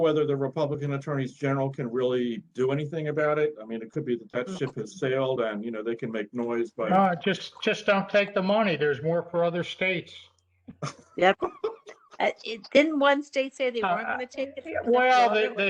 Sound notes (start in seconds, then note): 10.8 laughter